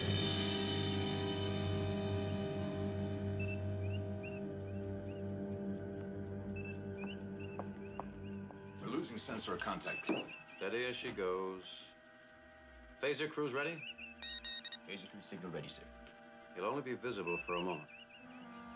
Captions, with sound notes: We're losing sensor contact, captain. Steady as she goes. Phaser crews ready? ( computer beeps ) Phaser crew signal ready, sir. He'll only be visible for a moment.